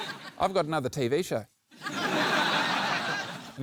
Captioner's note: laughter